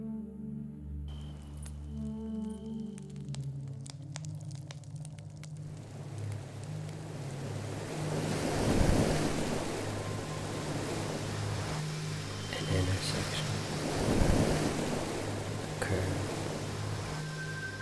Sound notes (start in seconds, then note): 2.1 fire crackling; 2.1 gentle music; 6.9 waves crashing